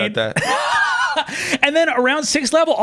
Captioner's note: laughs